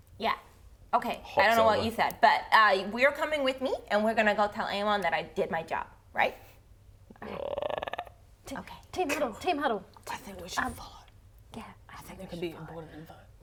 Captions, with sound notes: Yeah Okay I don't know what you said But we are coming with me And we're going to go tell Aemon that I did my job, right? *frog croak* Okay Team Huddle! I think we should follow Yeah I think we should go - I think there could be important info